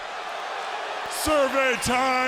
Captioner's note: crowd cheering